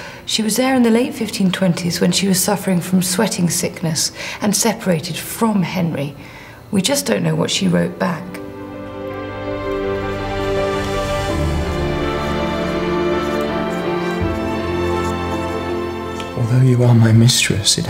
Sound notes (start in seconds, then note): 8.2 sweeping instrumental music; 8.6 pen scribbles